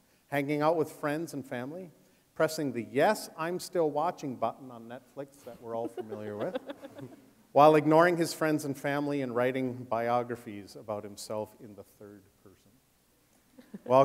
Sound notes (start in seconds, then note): 7.5 laughing